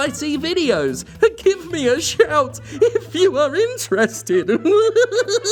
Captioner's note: despairing; digresses to mocking laughter